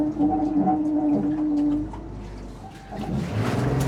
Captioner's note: water Splashing